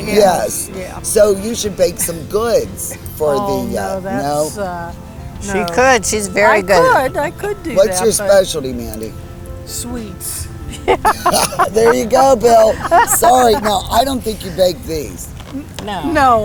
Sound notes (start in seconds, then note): 10.6 laughing